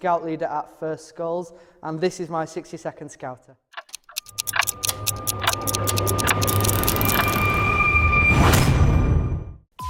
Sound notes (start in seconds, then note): 3.8 clocks ticking and gears moving